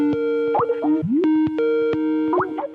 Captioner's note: telephone buzz